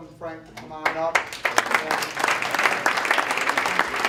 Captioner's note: applause